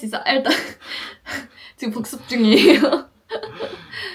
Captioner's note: laughs